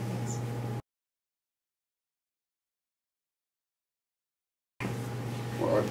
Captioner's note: silence